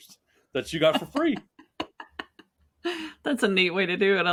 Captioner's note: laughing